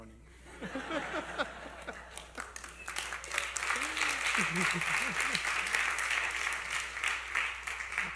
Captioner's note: laughter and Applause